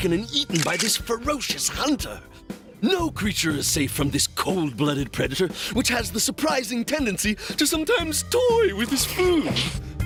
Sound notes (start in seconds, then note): none